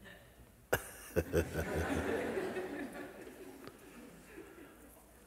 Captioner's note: laughter